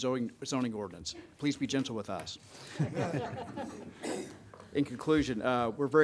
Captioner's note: audience laughing